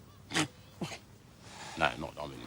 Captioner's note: laughs